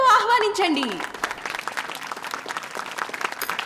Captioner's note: applause